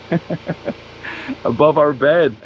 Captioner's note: chuckles